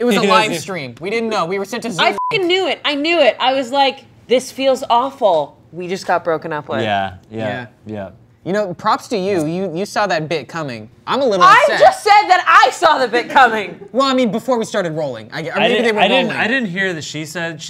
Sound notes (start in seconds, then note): 2.1 beep